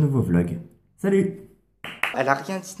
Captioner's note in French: clap clap